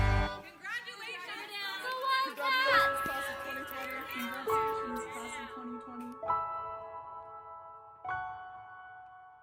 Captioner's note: various voices